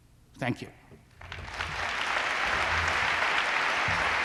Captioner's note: applause